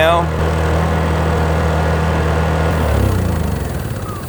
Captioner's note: generator whirring